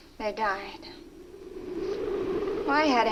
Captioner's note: muffled wind howls